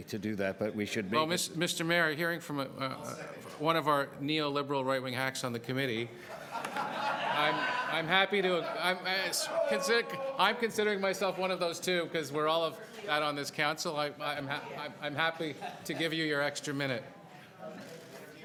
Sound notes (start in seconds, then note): 6.2 laughter